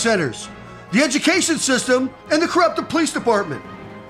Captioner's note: radio